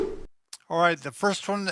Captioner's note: whip sound